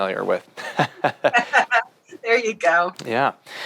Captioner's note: both laugh